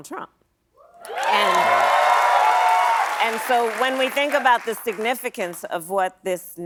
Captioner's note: cheers and applause